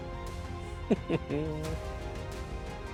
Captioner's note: laughs